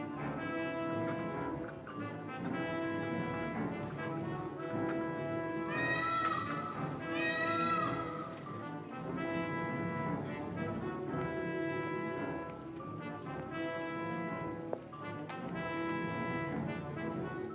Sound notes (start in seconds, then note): 5.7 bird squawking